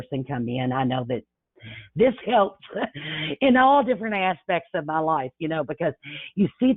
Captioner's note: chuckles